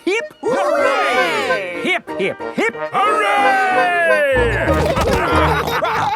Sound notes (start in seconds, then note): 4.4 all laughing